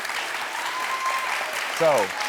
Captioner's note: audience cheering